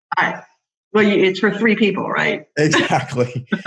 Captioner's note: laughs